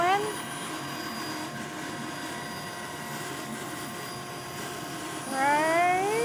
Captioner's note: sawing